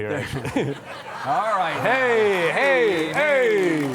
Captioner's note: audience laughing